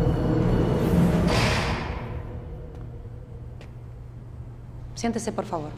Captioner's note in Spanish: Portazo